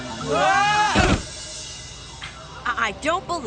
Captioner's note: crash